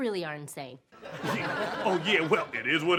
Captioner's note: audience laughs